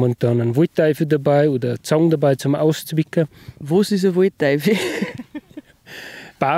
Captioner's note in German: lacht